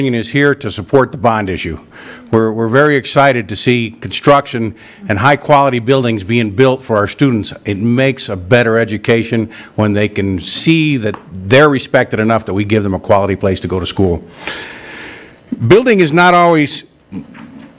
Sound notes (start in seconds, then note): none